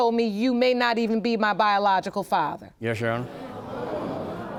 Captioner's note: audience murmurs